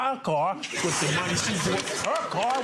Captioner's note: audience laughing